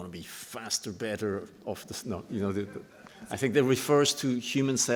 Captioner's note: laughter